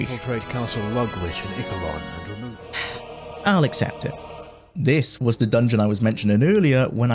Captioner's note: sigh